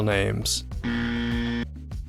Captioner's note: buzzer